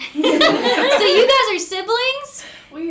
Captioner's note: group laughing